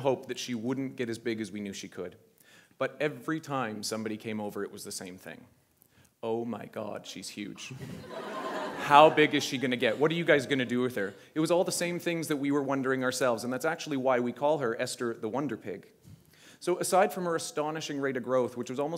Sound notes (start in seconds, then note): 7.7 laughter